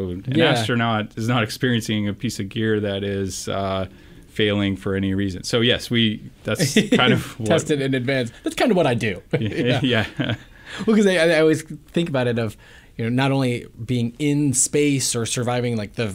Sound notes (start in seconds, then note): 9.3 laughs